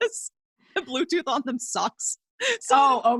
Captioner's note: laughs